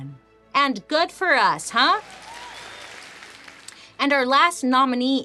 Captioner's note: audience cheering